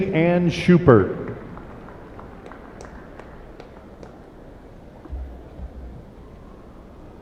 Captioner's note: cheers and applause